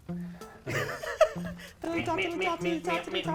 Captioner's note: both chuckling